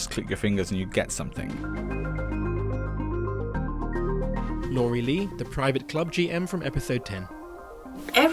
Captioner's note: voiceover